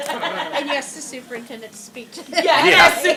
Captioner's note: laughter